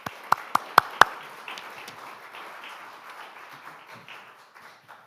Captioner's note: audience applauding